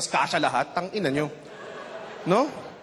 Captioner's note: laughter